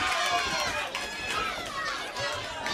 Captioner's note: crowd chatter